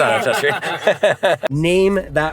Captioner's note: laugh